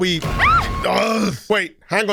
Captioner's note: Jumpscare, Cassie screams